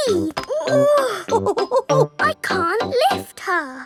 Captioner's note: chuckles; straining